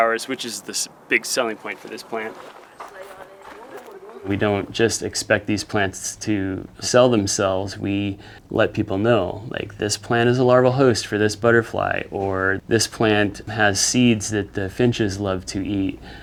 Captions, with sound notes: which is the big selling point for this plant. [ DIRT SCRUNCHING ] We don't just expect these plants to sell themselves. We let people know, like, "This plant is a larval host for this butterfly;" or, "This plant has seeds that the finches love to eat;"